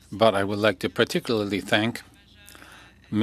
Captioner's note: speaking French